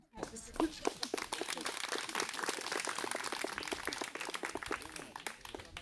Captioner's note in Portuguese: aplausos